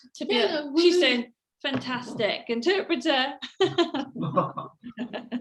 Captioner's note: laughs